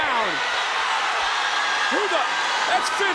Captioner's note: crowd cheers